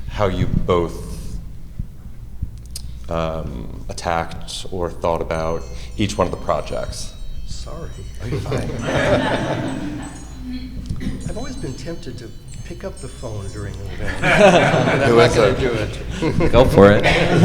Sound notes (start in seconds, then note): 6.9 phone ringing